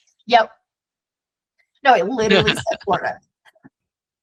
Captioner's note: chuckles